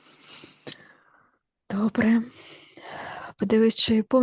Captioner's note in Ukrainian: сопіння